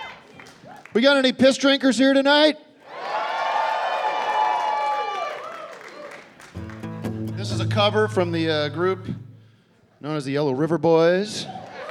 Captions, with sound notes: We got any piss drinkers here tonight? [cheering and applause] This is a cover from the group known as The Yellow River Boys.